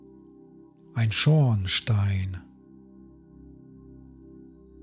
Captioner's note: german